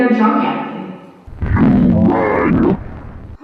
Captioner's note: unzipping sounds